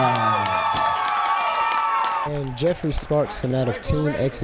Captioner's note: crowd cheers